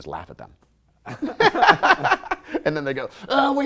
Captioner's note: laughter